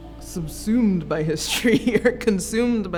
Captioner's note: laughs